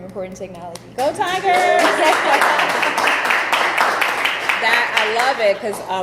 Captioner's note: audience applauding